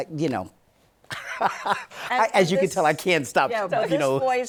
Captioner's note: laughs; laughs